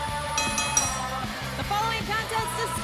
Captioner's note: bell ringing